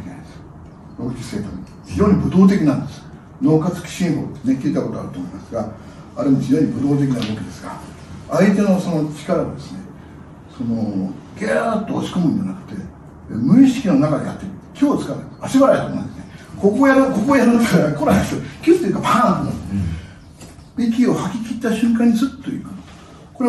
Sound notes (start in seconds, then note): 19.4 laughs